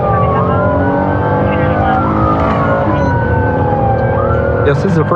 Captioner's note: engin revving